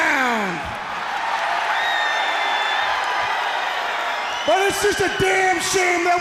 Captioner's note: crowd cheering